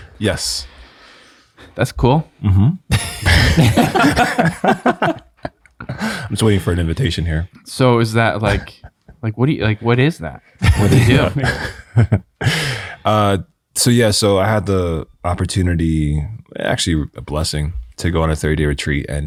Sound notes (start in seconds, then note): 2.9 all chuckling; 10.6 chuckling